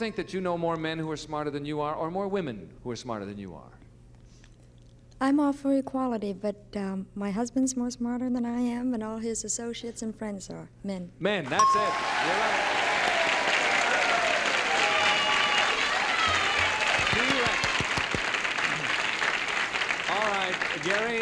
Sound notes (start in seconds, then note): 12.6 applause and cheering